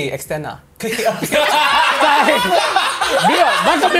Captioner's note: laughs